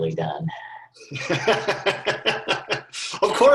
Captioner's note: laughing